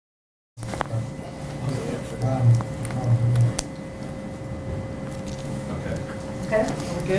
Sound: background conversation

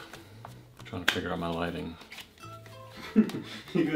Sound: snap; laughing

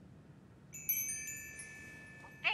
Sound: wind chimes

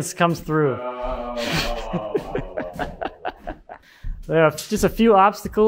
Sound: feigns laughter

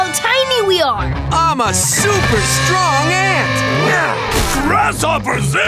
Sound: grunting

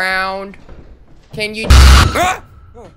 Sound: static crackling

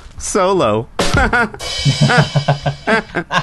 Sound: laughter

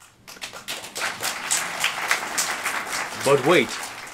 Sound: applause

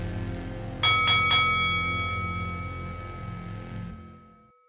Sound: bell rings

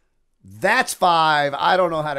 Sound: none

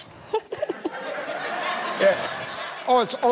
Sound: giggles

